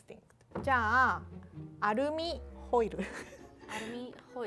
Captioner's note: speaking Japanese